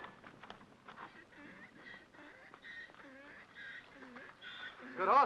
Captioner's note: horse gasps for air